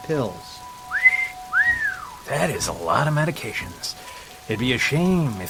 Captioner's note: whistles